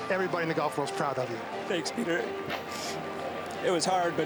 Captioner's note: crying; sniffles